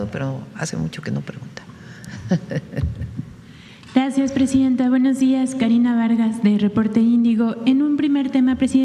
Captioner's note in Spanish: risas